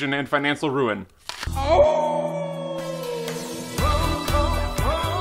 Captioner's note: howls